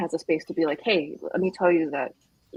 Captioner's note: none